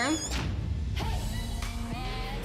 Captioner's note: creaking